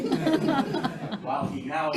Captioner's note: audience laughing